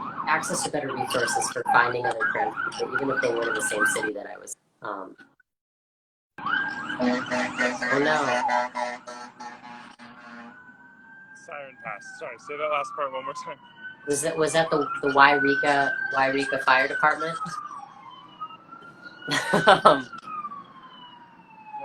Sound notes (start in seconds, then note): 6.7 sirens blare loudly and car horns honk; 19.2 laughs